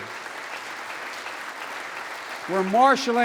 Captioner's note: applause